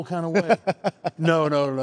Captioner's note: laughs